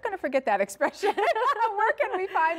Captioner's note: laughing